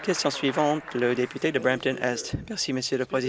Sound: applause

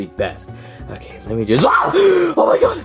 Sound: screams

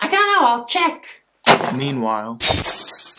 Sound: bong!

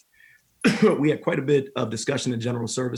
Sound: coughing

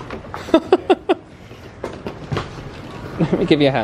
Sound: laughing

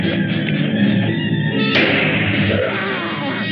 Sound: gunshot

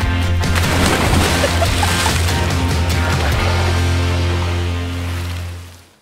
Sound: splashing; woman laughing

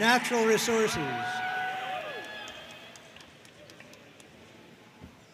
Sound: audience cheering and applauding

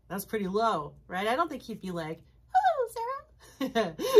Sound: uses high voice; laughs heartily

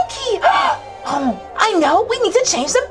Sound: gasps

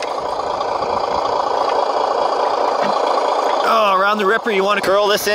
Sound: dozer motor humming

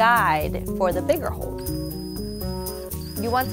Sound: whirring

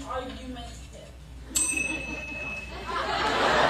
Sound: bell rings

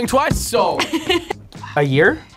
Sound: laughs

